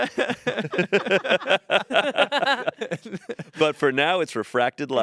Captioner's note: group laughing